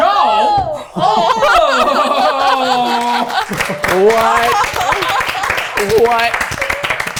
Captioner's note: teams stammer in disbelief